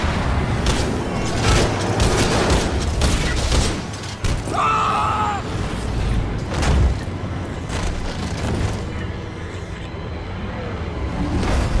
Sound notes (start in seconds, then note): 4.4 screams